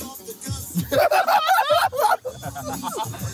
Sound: laughing

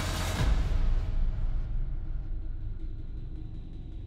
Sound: dramatic sound effects

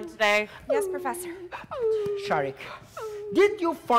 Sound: Sharik softly whimpering

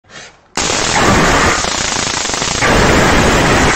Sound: electric Zapping

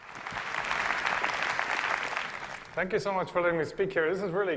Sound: applause

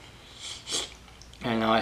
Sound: slurp

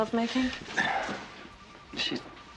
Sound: Josh clears his throat

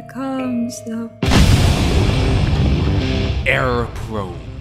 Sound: boom

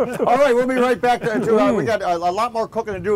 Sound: chuckles

